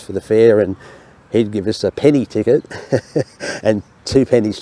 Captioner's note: laughs